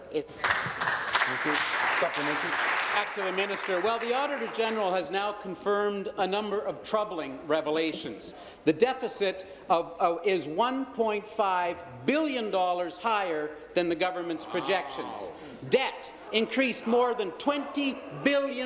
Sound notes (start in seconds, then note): 5.5 applause